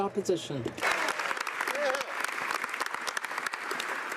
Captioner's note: speaking French; some Applause